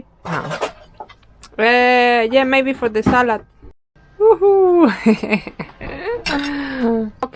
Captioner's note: laughs